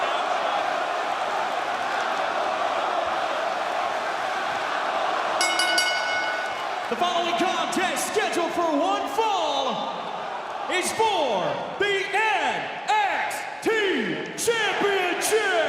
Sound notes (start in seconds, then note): 5.4 bell ringing